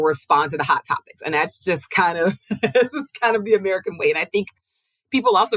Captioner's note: chuckles